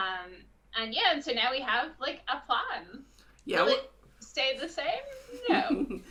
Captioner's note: laughs